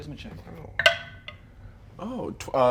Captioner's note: die rolls